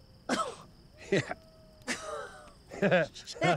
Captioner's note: coughs; laughs